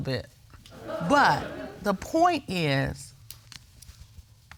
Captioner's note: audience laughing